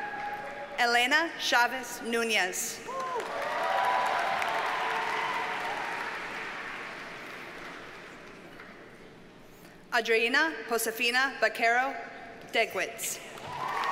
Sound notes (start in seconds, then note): 2.9 audience cheers and applauds